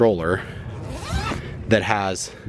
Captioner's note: zipper snapping